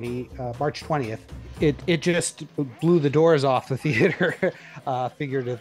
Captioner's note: laughs